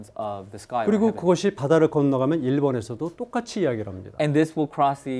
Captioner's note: speaking in Korean